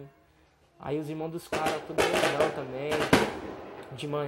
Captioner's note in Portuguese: Fogos de Artifício